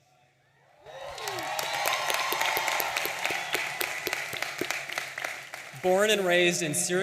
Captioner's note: audience applauding and cheering